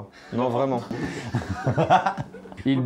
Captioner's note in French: rires